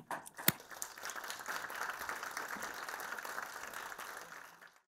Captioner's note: audience applauds